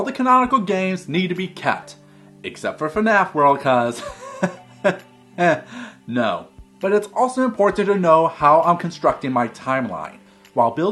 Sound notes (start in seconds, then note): 4.0 laugh